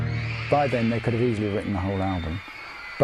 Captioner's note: crowd cheering